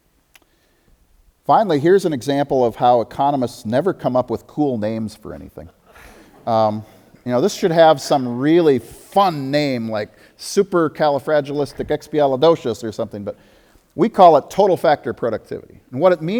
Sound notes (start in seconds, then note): 5.8 audience laughter